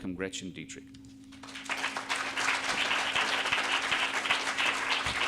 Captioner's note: audience applauding